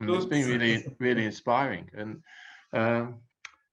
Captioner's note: laughing